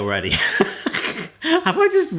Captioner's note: laughing